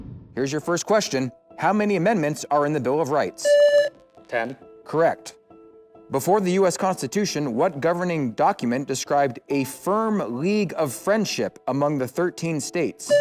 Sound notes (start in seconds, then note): 0.0 swoosh; 3.4 buzzer; 13.1 buzzer